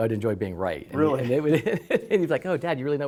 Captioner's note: laughter